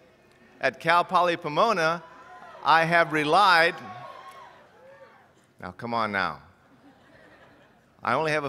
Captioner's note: cheers